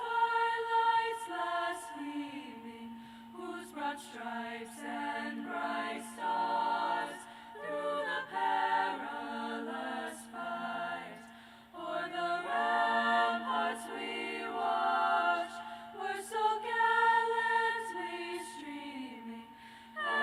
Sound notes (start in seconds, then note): none